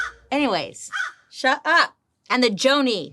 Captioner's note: Joan caws